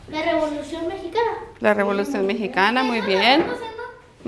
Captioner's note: speaking spanish